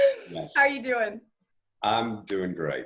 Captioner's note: laughs